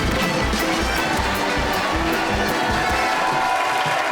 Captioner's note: crowd cheering